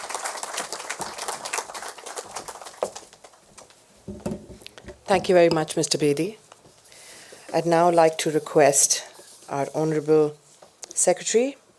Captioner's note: applause